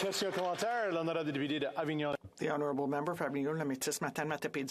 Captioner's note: applause